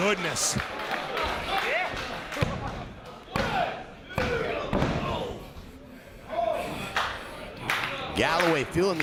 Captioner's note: applause